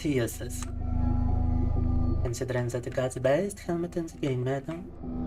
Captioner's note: speaking in Russian